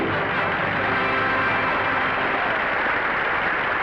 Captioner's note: audience applauding